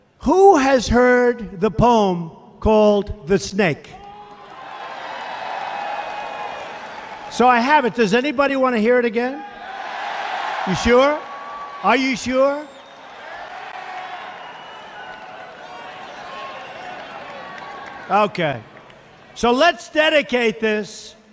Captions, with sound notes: Who has heard the poem called 'The Snake'? So I have it, does anybody want to hear it again? [Crowd shouts positvely] You sure? Are you sure? [Crowd cheers postively] Okay, so lets dedicate this